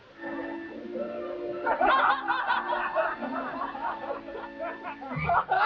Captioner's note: audience laughing